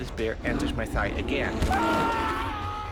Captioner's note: screaming